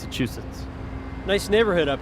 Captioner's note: traffic humming